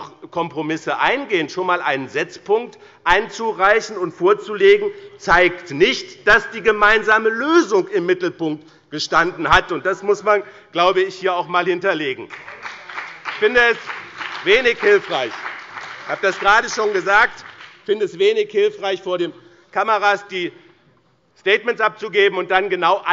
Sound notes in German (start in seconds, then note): 12.2 Beifall bei dem BÜNDNIS 90/DIE GRÜNEN und der CDU